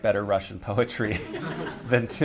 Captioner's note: laughter